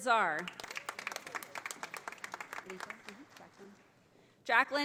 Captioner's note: audience applauding